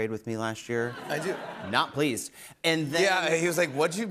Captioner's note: laughter